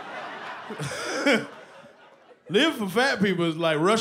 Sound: laughs

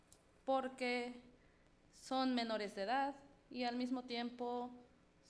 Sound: speaks foreign language

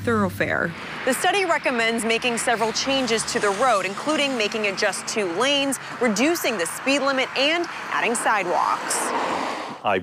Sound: traffic passing

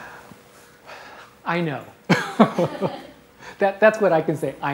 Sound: laughs

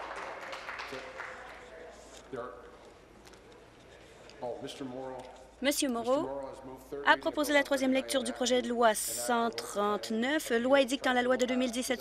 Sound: applause

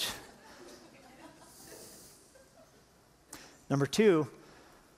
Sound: laughter

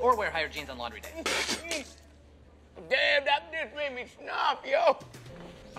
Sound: chang spits out milk

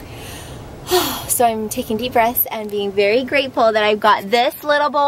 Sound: sighs

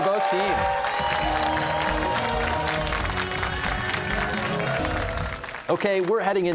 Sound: cheers and applause

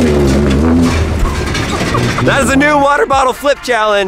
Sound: engine roaring

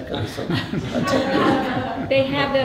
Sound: laughter

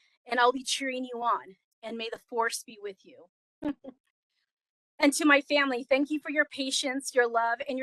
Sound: laughing

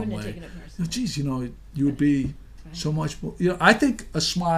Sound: voiceover

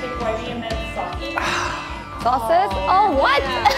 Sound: sighs

